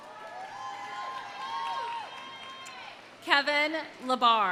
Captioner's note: audience applauding; audience cheering